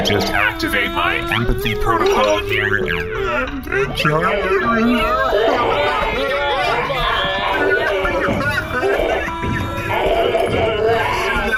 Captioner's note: C-53 starts crying too